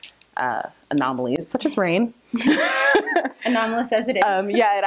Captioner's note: laughs